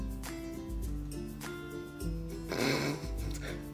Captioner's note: snicker; 憋笑